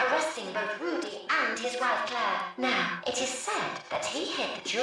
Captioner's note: none